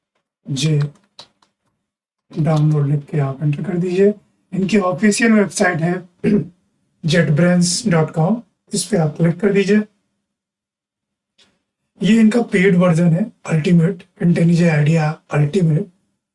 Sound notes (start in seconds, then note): 6.2 sound of sore throat